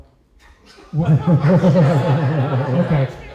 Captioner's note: laughter